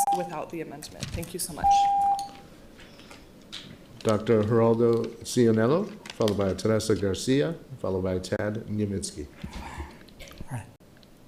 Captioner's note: horn beeping